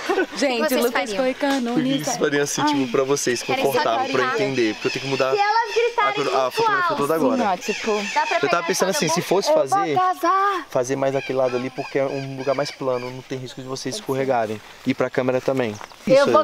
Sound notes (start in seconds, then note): 0.9 chanting; 9.3 shouting